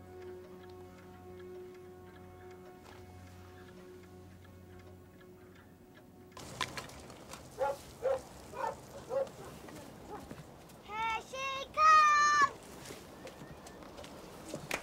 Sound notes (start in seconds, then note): 0.0 clocks ticking; 7.4 dogs barking; 14.6 applause